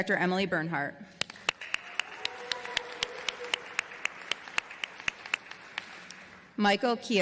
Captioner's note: applause